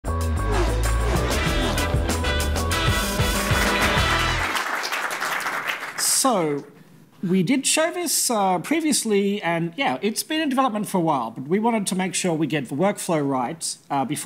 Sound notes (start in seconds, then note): 0.0 upbeat music; 3.4 clapping